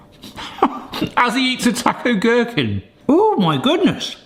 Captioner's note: laughs